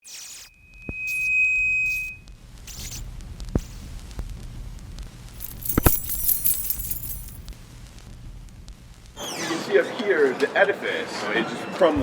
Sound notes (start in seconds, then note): 0.6 mic feedback; 5.4 keys jingling